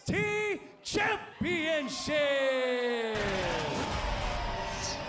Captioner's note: crowd cheering